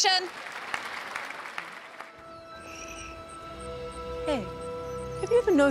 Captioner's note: crowd applauding